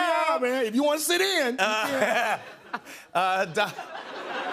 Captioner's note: laughs